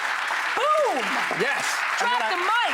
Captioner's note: audience claps